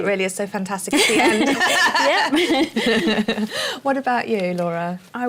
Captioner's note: laughter